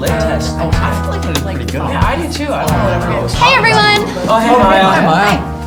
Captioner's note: indistinct chatter